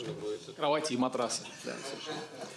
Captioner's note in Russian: Смех